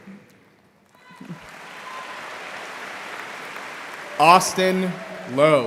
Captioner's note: audience applauding